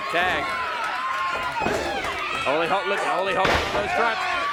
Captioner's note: crowd chatter